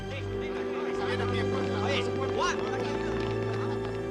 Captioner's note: officers speaking Spanish